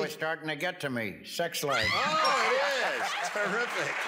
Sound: cheers and applause

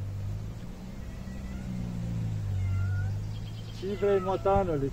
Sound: cat is meowing

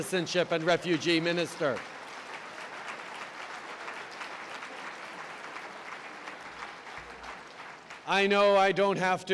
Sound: applause

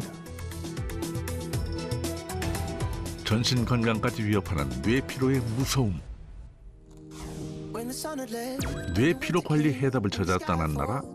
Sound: voiceover

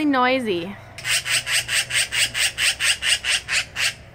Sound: loud magpie noises

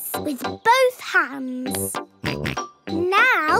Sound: snorts

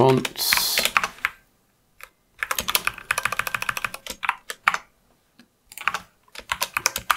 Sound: typing

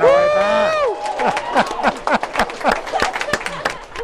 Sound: clapping and cheering

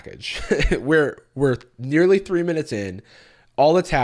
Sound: chuckles

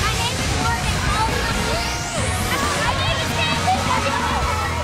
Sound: girls shouting

